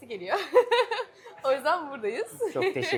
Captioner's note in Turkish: kahkaha